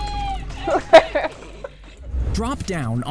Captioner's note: laughing